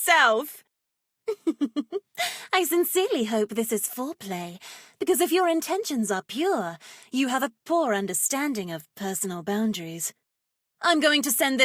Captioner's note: giggle